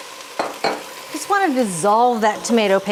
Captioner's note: broth sizzling; cup clinking